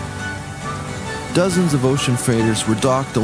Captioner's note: ocean ship traffic sounds